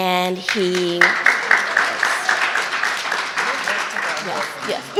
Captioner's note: audience clapping